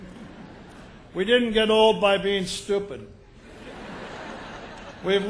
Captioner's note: laughter